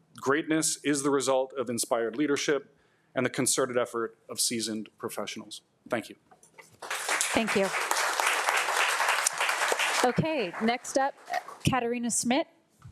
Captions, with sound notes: Greatness is the result of inspired leadership and the concerted effort of seasoned professionals. Thank you. (audience applauding) - Thank you. Okay, next up, Katina Schmidt.